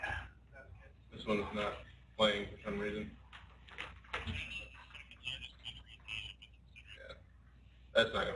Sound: video playing very low

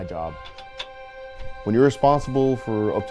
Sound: tool noises

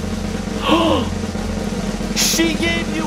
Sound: dad gasps

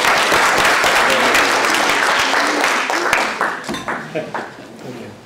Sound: applause

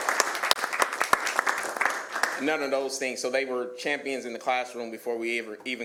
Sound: applause

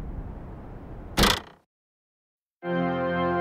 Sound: trunk Closing

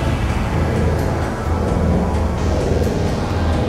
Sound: portal buzzing

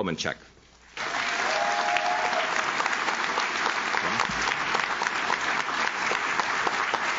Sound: audience claps; audience cheers

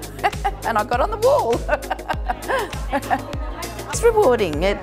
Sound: laughs

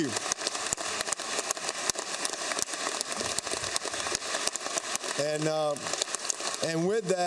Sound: applause

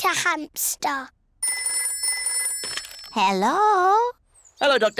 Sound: phone rings

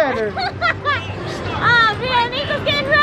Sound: laughing

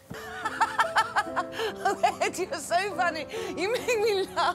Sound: laughs

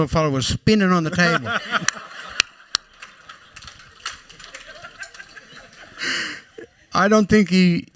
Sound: laughter

